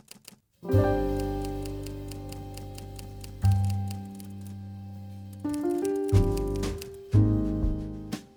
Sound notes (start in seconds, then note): 0.6 gentle music; 2.3 typewriter typing; 5.2 gentle music